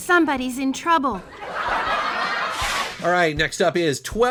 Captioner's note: audience laughing